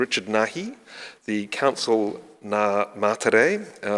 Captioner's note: speaking in foreign language